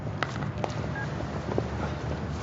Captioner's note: beeps